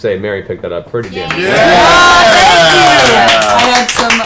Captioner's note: cheering